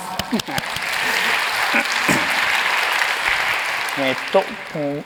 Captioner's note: applause